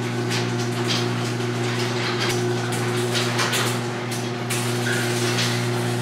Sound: garage motor running

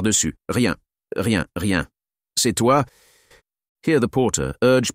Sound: French

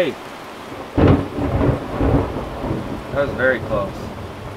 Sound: thunder blasting

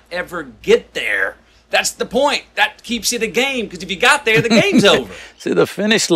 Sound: Sadhguru laughs

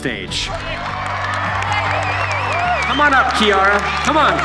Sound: applause

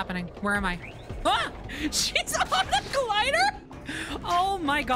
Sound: laughing

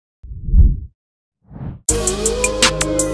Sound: whoosh

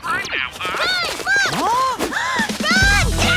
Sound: kids gasp

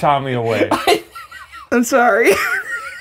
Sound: chortling; chortles

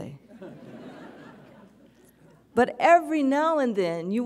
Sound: audience chuckles

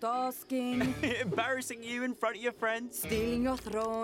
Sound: chuckling

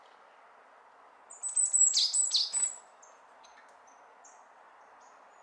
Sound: dongbaksae cries

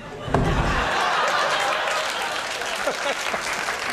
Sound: laughter

